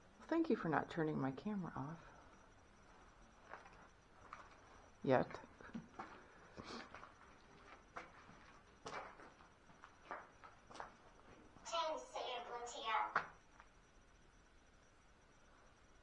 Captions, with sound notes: Thank you for not turning my camera off Yet [Footsteps] "Ten say a blue tear" Necrometer